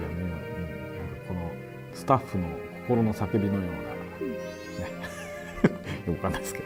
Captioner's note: laughter